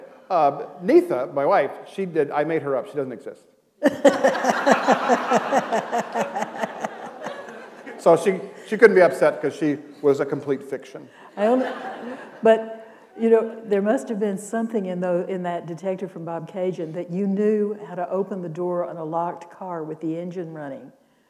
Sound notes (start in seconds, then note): 3.8 laughter